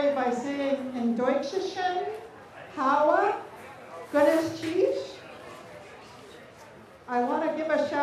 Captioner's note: speaking native language